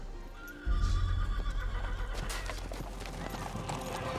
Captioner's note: horse neighing